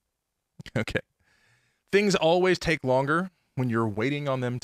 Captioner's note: chuckling